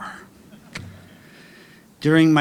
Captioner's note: audience chuckling